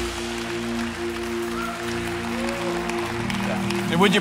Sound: cheering

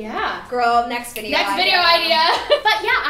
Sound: snapping; laughing

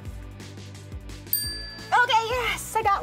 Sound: bell dinging

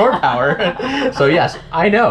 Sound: both laugh

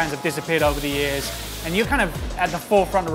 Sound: onions sizzle

